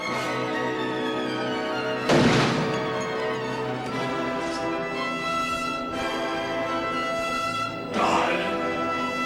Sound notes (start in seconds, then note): 2.1 gun shot